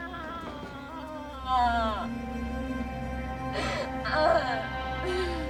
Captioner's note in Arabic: ينتحب